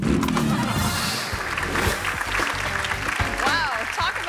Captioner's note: audience laughing; audience clapping